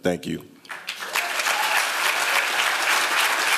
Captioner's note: applause